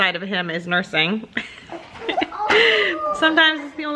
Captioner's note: laughs